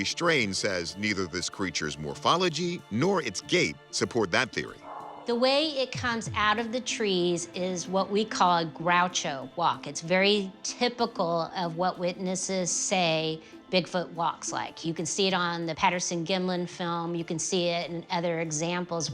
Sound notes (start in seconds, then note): 5.0 strain